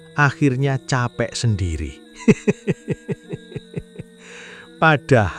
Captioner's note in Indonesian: tertawa